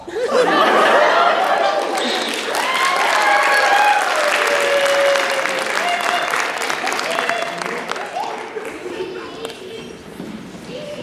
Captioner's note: applause